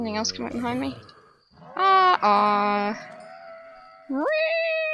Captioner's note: spooky horse scream